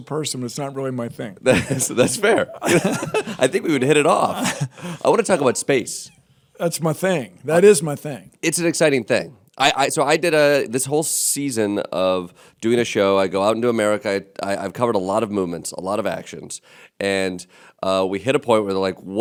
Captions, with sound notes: but it's not really my thing. - That's fair. (laughter) I think we would hit it off. I wanna talk about space. - That's my thing. That is my thing. - It's an exciting thing. So, I did this whole season of doing a show. I go out into America. I've covered a lot of movements, a lot of actions, and we hit a point where we're like what is something